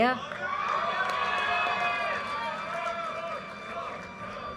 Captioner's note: audience cheers and applause